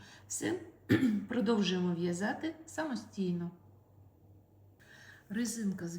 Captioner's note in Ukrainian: прочищення горла